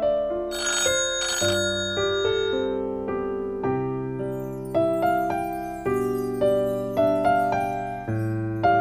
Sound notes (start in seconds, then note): 0.5 alarm